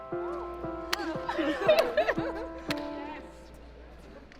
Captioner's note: both laugh